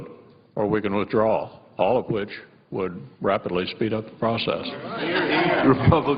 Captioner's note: laughter